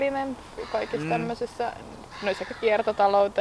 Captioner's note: seagulls are at it again